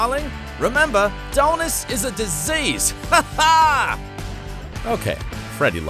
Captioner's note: laughs